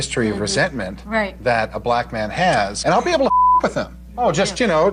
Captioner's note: beep